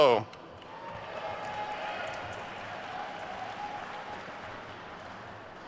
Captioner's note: attendees cheering and applauding